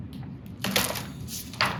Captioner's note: book clatters; pages rustling